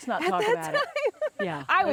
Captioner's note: laughs